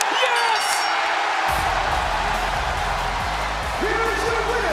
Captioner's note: bell rings